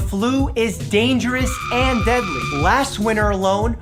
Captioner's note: person screaming